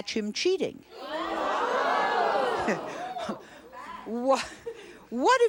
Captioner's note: audience jeering